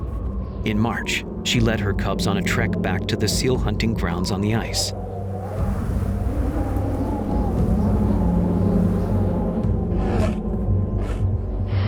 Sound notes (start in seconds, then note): 4.9 grass rustling; 5.5 wind whistling